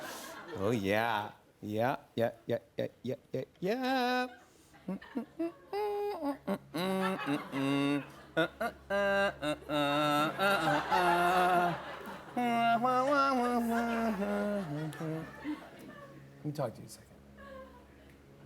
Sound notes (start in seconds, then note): 4.8 humming